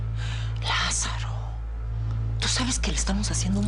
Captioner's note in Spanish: Ella exhala